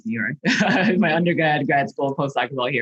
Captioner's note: chuckles